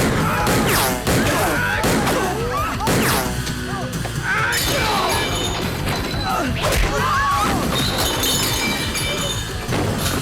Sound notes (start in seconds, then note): 4.6 dishes clattering; 6.1 people screaming